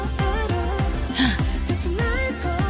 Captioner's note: gasp